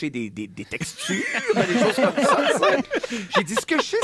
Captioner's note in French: rires